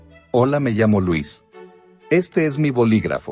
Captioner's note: in Spanish